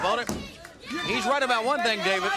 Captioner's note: crowd cheering